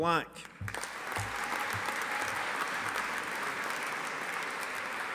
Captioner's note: audience applauding